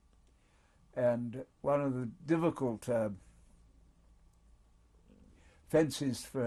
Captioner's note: pauses for 3 seconds